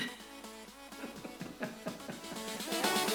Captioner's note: giggle